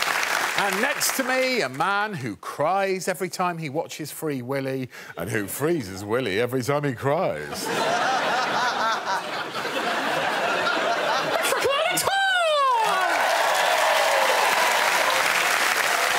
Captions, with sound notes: And next to me, a man who cries every time he watches Free Willy and who frees his willy every time he cries. [laughter] It's little Alex Horne. [cheers and applause]